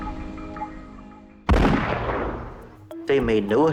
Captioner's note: gunshot